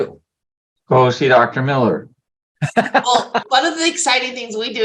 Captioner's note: laughing